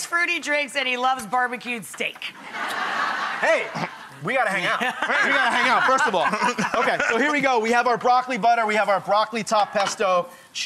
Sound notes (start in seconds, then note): 2.4 audience laughs